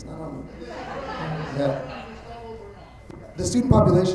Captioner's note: attendees laughing